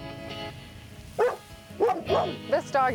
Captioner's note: barking